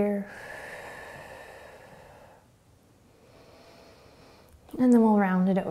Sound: exhaling and inhaling

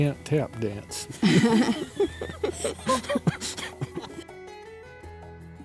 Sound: laughs

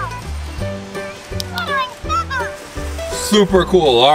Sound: toy talks

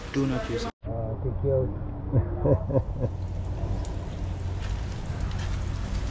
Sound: laughter

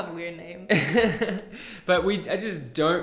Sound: both laughing

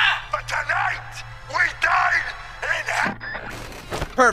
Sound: radio cutoff

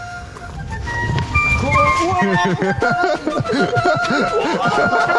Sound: march music; all laughing

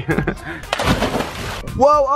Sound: splashing

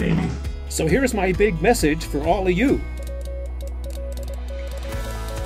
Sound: beep beep beep

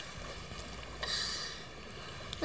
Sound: exhales

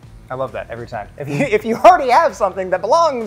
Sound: laughs

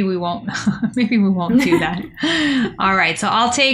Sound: laughter

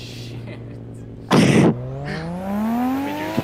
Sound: wheeze

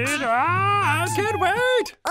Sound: screaming

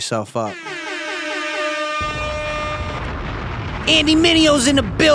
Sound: air horn; bomb exploding

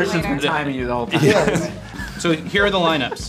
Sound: laughs

